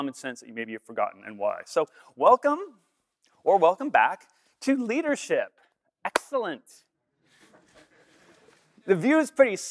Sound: laughter

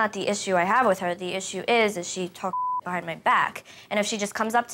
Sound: beep

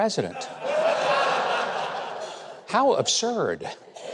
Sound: audience laughing

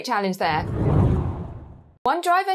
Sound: screen whooshing

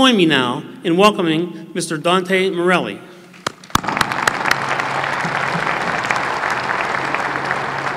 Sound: applause

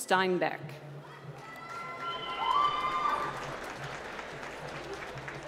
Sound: cheering and applause

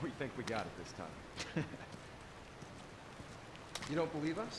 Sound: chuckle

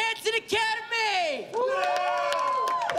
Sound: cheering

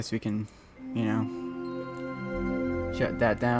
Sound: Windows 98 shutdown sound

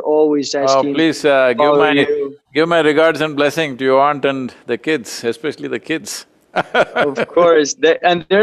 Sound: laughs

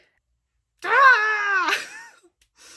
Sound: yells in frustration

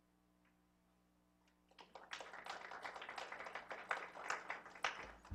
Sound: applause

